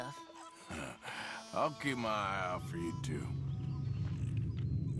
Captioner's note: laughs